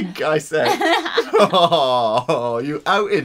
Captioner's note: laughs